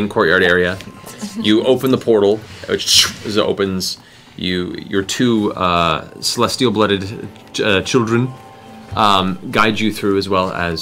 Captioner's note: whoosh